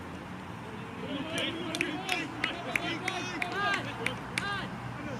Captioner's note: applause